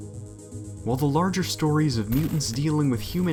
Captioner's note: voiceover